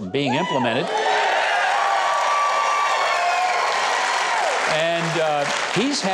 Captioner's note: audience cheers